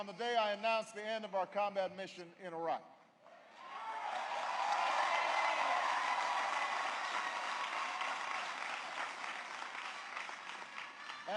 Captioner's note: applause